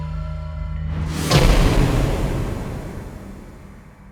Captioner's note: whooshing